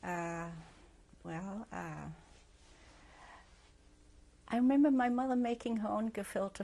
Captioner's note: pauses for 3 seconds